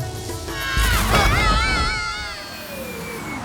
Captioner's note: screaming